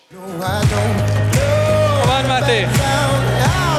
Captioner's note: upbeat music; audience clapping